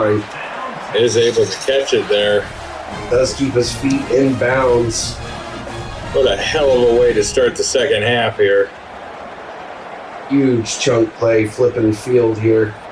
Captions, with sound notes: [Crowd Noises] Is able to catch it there. [Crowd Noises] Let's keep his feet in bounds. [Crowd Noises] What a hell of a way to start the second half here. [Crowd Noises] Huge chunk play flipping the field here.